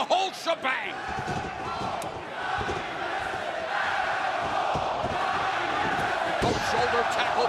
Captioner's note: crowd cheering